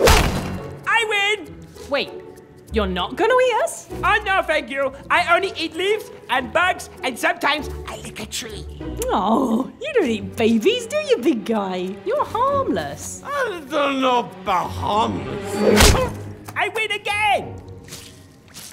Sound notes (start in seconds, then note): 1.0 gentle, upbeat music; 6.9 whispered